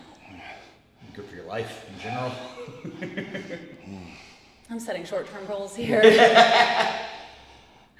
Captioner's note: laugh; laugh